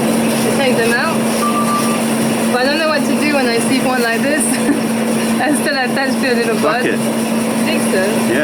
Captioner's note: laughter